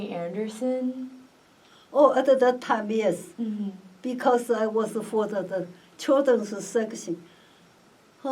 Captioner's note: sighs